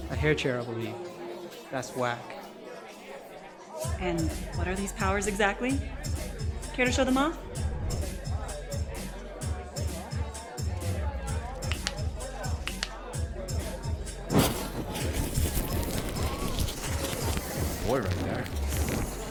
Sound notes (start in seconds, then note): 8.6 upbeat music; 11.6 bones cracking; 14.3 fire sizzling